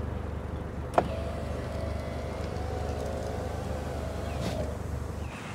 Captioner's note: window whirring